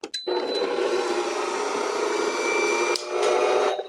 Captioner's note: mixer whirling